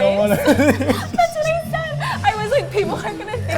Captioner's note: both laughing